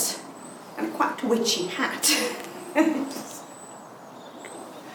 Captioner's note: laughing